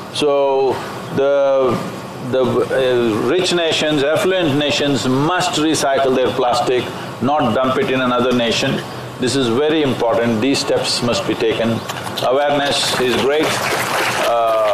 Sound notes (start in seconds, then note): 11.7 applause